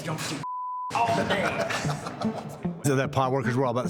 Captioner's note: laughing